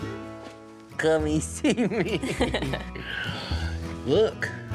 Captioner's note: chuckles